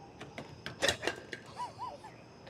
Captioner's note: bottle falling